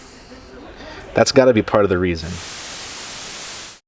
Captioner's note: static